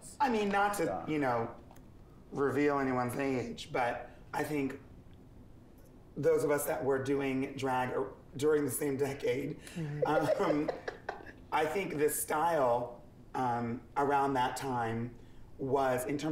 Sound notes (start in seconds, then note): 10.0 Jiggly laughs